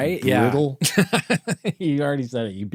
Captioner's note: laughing